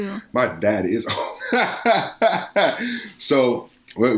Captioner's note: laughing